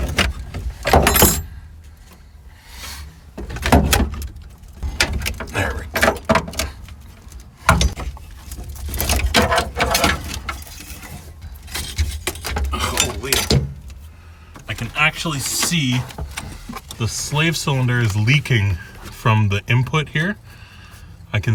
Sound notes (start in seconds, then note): 0.8 banging